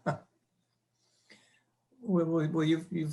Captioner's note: panelists chuckling